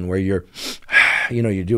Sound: inhale,exhale

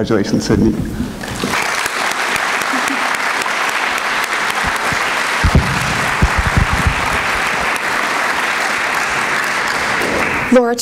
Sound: applause

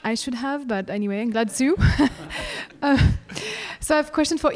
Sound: everyone laughing

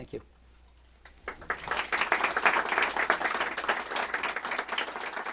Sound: applause

